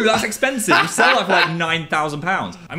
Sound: Dan laughs

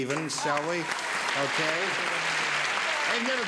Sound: applause

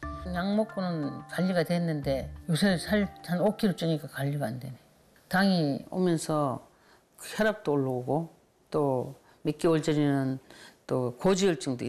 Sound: voiceover

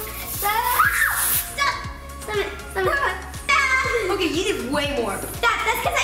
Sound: screams

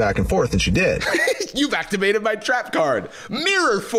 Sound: giggles

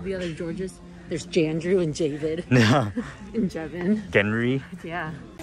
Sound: laughs

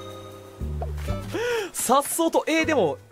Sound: inhales once again

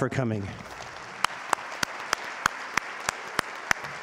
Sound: audience applauding

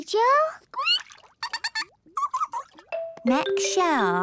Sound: both fish laughing

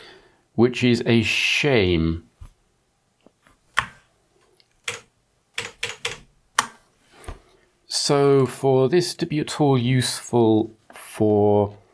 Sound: clicking

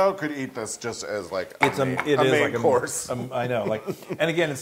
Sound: laugh

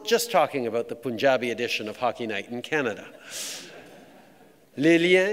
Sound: laughter

